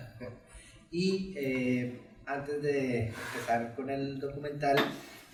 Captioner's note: speaks in Spanish